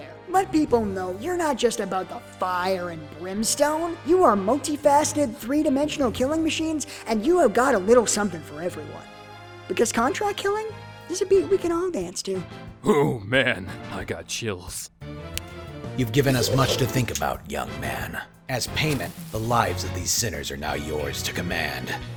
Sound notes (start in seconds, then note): 15.3 snap; 16.1 deep raspy voice